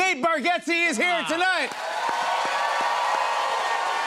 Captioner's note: cheers and applause